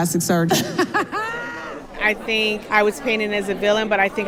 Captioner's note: laughter